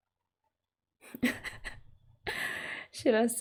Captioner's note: laughs